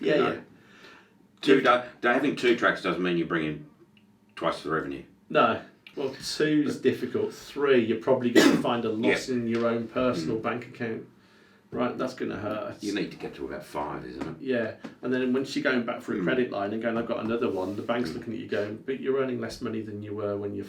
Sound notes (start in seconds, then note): 8.3 coughs